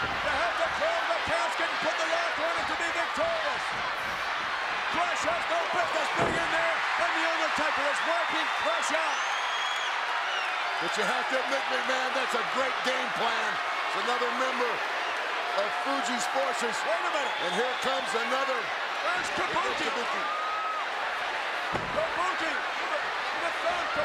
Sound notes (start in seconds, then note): 9.2 applause